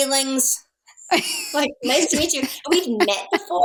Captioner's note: laughing